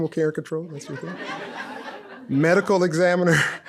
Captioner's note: audience laughs